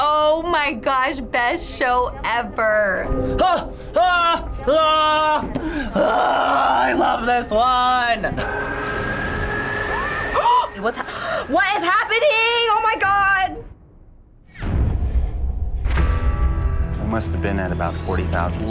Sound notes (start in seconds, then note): 3.5 screams; 11.0 gasps